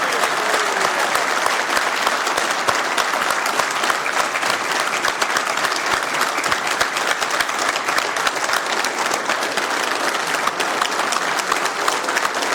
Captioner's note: cheering